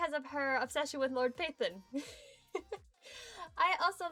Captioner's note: giggles